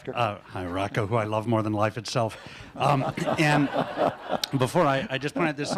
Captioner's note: laughter